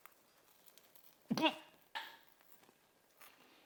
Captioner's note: food combo crunching; host grunts; food combo crunching